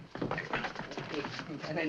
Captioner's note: men struggling